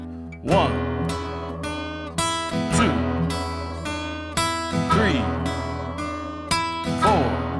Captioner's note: wall chiming in time